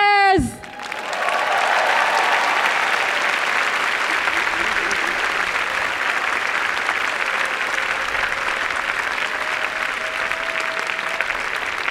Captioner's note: applause and cheering